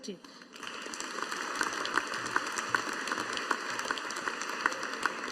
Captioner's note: audience applauding